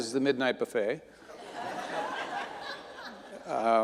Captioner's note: audience laughing